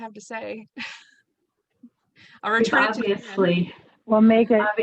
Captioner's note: chuckles